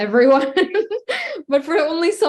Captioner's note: laughing